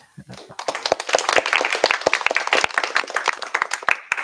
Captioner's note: applause